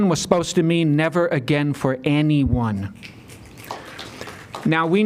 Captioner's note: applause